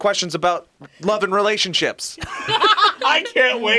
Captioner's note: both laugh